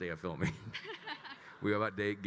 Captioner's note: attendees laughing